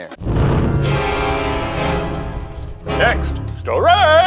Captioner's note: smoke whooshing; upbeat intense music